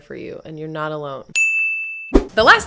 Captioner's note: ding!